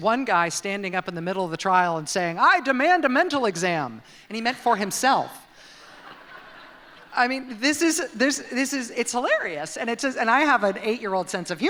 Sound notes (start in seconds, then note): 5.8 laughter